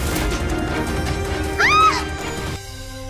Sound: woman screaming

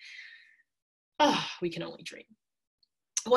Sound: sighing

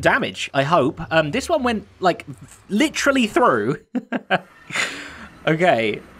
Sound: chuckles

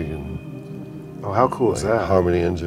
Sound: voiceover

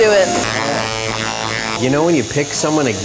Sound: buzzing of tattoo gear

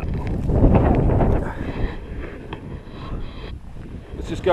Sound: wind blowing

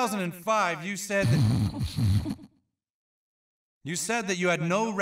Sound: Mr. Hankey snorting

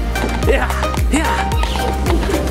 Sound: footsteps clopping

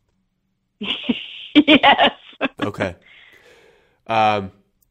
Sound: laughs

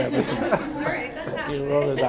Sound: audience laughs

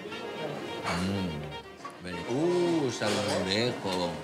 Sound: speaking Spanish

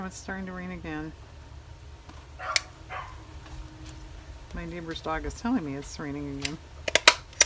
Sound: dog barking

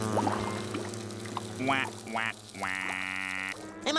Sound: sad noises

